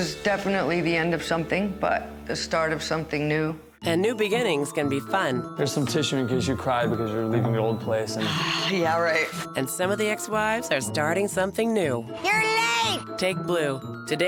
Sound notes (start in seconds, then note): 8.2 sigh